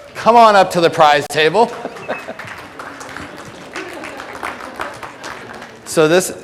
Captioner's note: audience applause